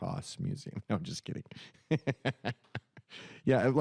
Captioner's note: chuckles